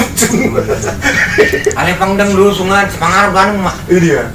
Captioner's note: laughs